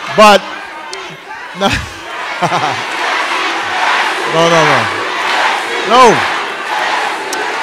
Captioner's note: audience chanting "yes, you can"